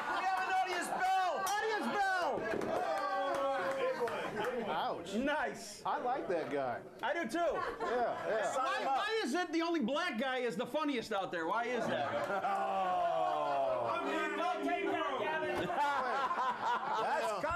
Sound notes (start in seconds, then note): 0.0 laughter; 3.5 bell Rings